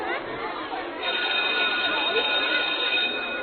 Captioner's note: school bell rings